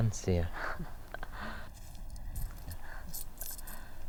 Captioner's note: chuckles